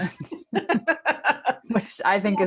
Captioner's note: laughs